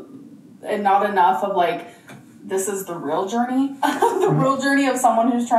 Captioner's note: laughing